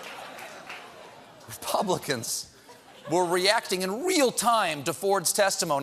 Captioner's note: laughter